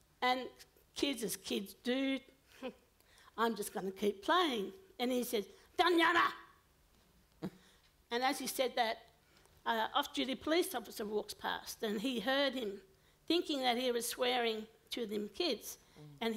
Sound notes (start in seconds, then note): 5.8 foreign language